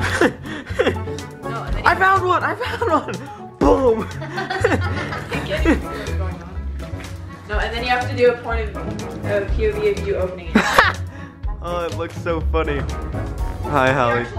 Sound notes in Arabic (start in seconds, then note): 0.7 يضحك